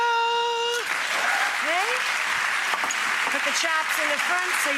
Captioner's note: audience applauds